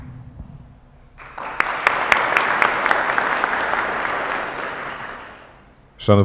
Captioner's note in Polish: oklaski